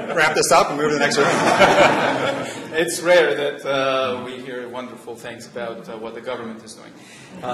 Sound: laughter

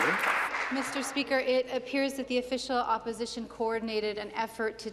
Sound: applause

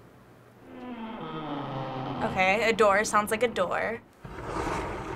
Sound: low creaking; sliding noise

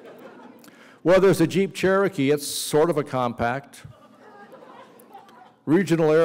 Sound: laughter

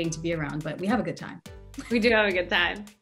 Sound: laughs

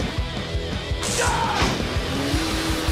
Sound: scream

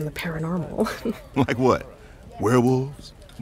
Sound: chuckling

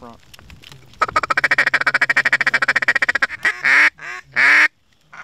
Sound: duck Calling

